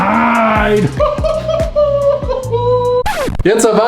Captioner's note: high pitched laughter